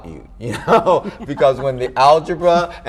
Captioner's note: chuckles